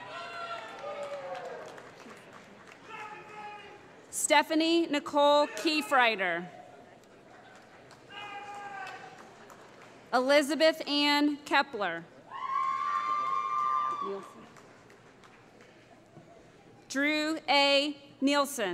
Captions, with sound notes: [ Cheering ] Stephanie Nicole Keifrider [ Applause ] Elisabeth Ann Kepler [ Cheering ] Drew A. Nielsen